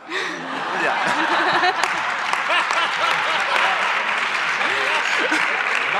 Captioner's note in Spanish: se monta un sindiós, aplausos